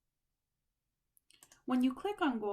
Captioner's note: click